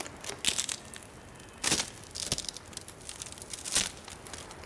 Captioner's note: sticks Breaking